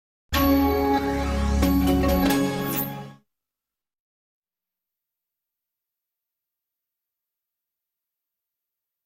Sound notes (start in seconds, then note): 0.3 computer commercial jingle plays; 3.7 silence